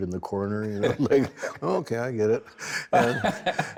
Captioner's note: laughs